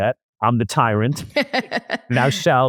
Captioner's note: laughs